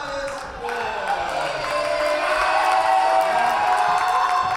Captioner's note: cheering and applause